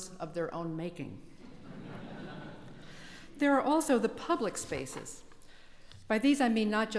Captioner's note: laugh